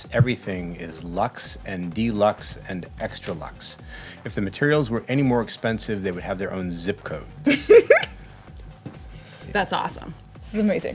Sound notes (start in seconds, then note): 7.5 laughing